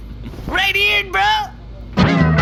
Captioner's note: Derf snickers